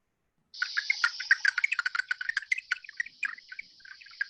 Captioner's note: clicking and chirping